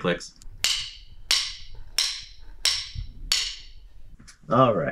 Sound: drumsticks clicking

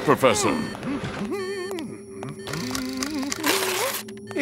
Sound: humming

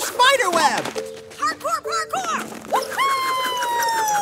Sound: soundbite of rope reeling, landing continues

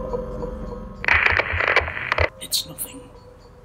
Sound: static

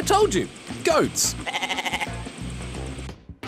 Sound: bleats

